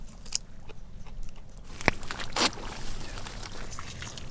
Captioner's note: munching